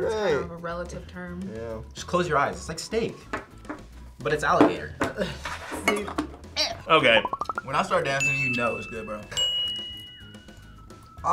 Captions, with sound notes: - Yeah, right. - It's kind of a relative term. - Yeah. - Just close your eyes, it's like steak, but it's alligator. - See. (gags) - Okay. - When I start dancing, you know it was good bro. (bell rings)